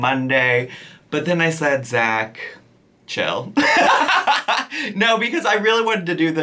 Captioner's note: laughs